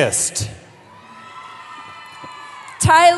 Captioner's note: cheering